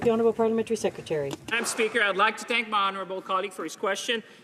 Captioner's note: some Applause